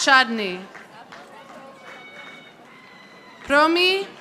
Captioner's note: audience applauding